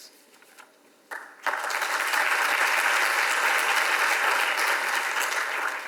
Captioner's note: audience applauds